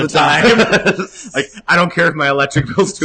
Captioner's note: laughter